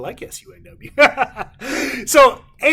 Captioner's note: laughs